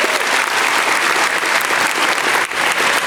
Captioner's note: applause